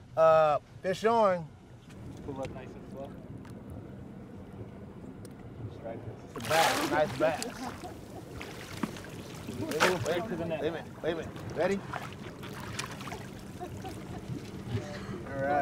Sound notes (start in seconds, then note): 7.2 chuckling; 9.0 fish splashing